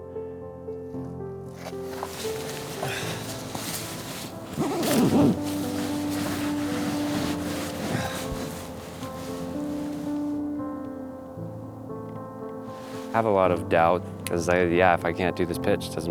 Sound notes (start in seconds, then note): 2.2 wind hissing; 12.6 wind hissing